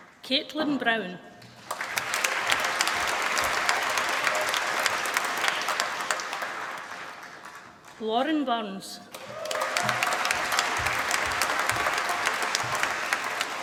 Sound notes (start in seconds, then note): 1.4 applause